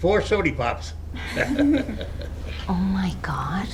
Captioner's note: Eden laughs